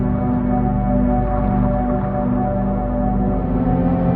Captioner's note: none